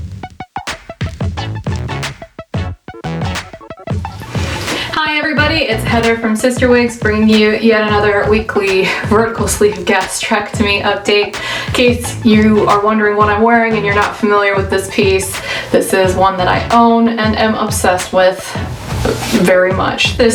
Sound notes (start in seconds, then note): 8.3 laughs